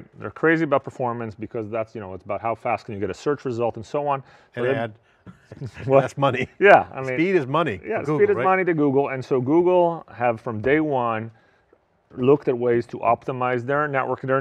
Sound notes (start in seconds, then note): 5.3 chuckles